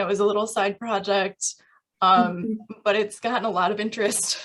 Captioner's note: laughter